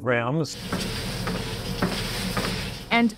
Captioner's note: treadmill whirs